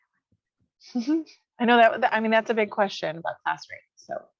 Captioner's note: chuckles